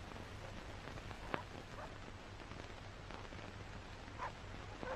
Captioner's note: distant dogs barking